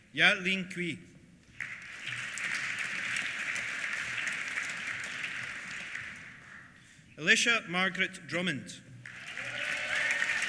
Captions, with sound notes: Yalin Cui. (APPLAUSE) Alicia Margaret Drummond. (CHEERS) (APPLAUSE)